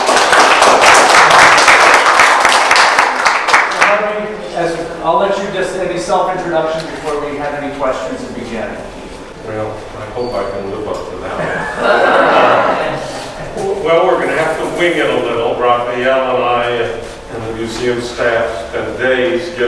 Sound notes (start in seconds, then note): 0.0 audience clapping; 11.3 audience laughs